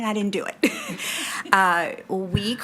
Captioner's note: participants laughing